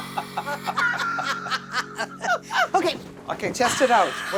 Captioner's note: laughter